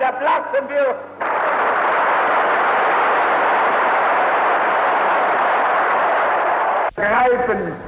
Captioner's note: applause